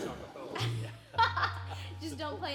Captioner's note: laughing